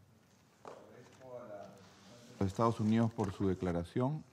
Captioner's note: in Spanish